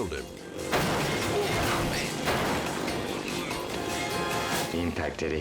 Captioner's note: motorcycles crash